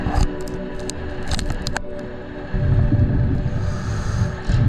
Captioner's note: cracking